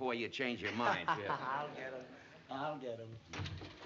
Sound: laughs

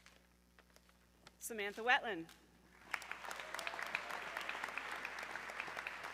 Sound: audience clapping

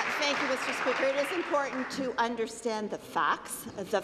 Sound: applause

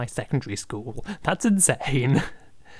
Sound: laughing

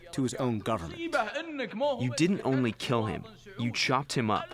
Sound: through translator

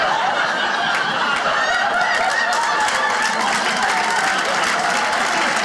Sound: audience clapping

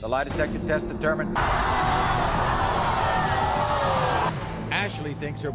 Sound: audience yells

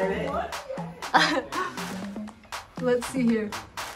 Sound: Jinger laughs

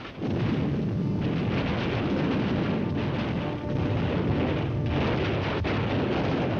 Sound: artillery booming; dramatic music

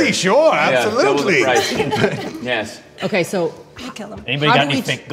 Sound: laughter

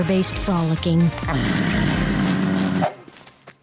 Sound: groaning

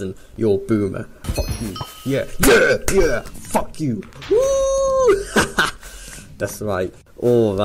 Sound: laughs

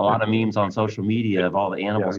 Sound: chuckling

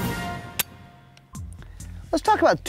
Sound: dramatic music; gun clicks

